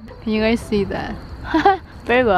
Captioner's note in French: rire nerveux